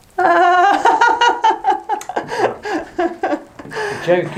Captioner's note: more laughter; laughter